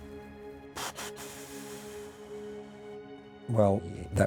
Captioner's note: melancholy music; sighs